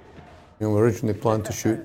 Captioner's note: Welsh